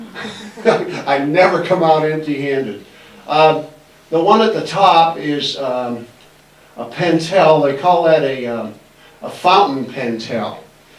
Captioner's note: laughs